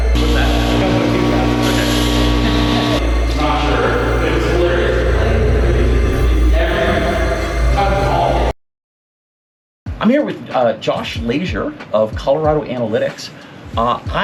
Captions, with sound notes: - What's that? - A couple of 2,000s. - Okay. - Not sure. (room echoing) (ominous music) I'm here with Josh Leasure of Colorado Analytics.